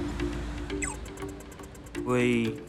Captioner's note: walking light beeps